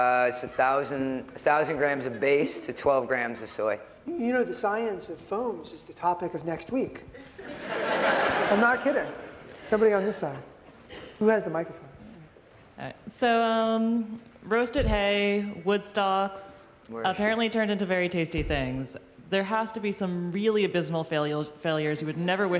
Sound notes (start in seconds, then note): 7.1 laughter